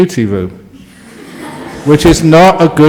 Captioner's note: laughter from the audience